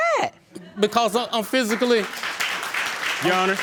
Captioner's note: audience laughing and applauding